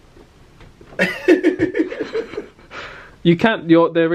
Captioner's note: laughs